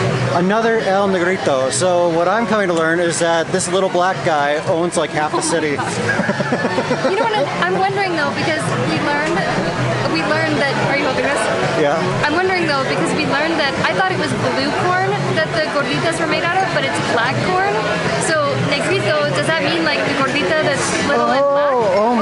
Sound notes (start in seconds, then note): 5.7 laughs